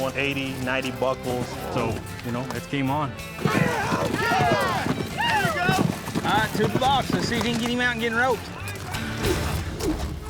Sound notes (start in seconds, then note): 3.4 cheering